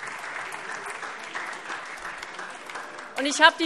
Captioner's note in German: Allgemeiner Beifall